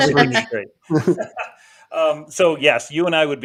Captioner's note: laughing